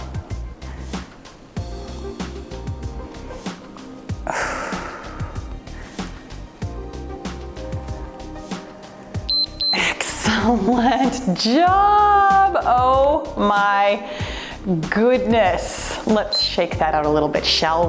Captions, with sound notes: (cheerful music) (timer beeps) Excellent job. Oh my goodness, let's shake that out a little bit shall we?